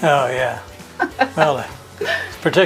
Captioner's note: laughs